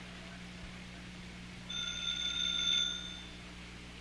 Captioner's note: telephone ringing